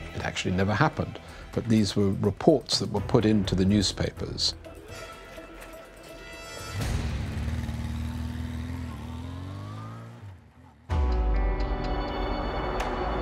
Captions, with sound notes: It actually never happened, but these were reports that were put into the newspapers. [motorbike riding] [dramatic music]